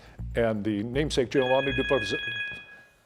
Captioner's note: bell chiming